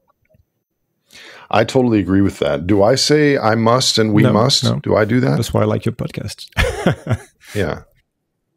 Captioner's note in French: Rires